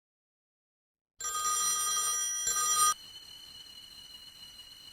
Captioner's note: phone rings